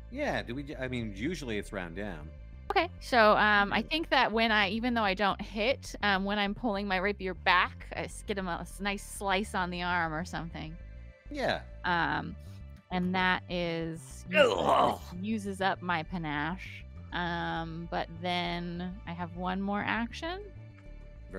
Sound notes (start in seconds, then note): 14.2 Stronk groans